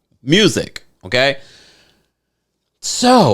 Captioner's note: inhaling